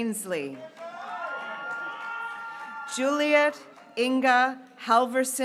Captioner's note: graduates cheering